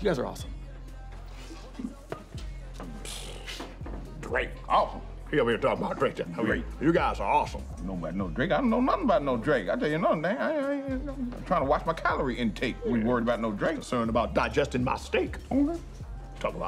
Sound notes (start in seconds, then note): 4.1 both scoff